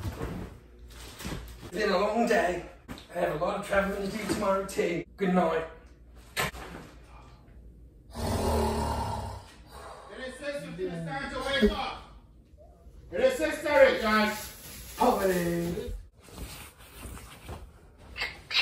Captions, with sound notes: it's been a long day--and I have a lot of travelling tomorrow, too--goodnight- (norses loudly) it is six fifteen it is time to wake up it is six thirty, guys-- poverty!